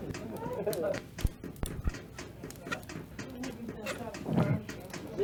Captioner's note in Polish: śmiech